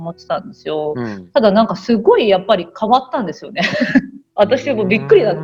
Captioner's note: laugh